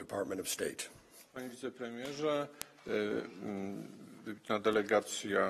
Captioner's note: speaking polish